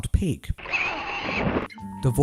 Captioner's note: wild pig noise